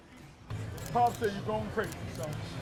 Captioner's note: camera shutter clicks